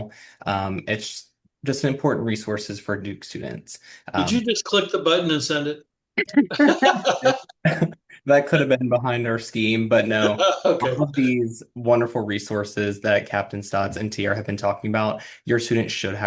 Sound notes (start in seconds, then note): 6.4 laughter; 10.2 laughter